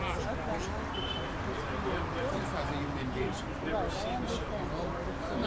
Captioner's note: background chattering